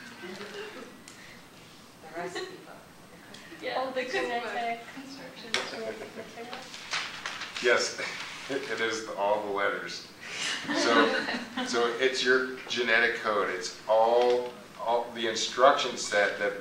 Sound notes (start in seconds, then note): 5.1 teacher laughing